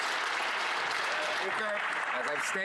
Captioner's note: some Applause